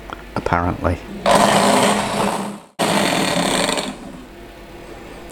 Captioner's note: beater noises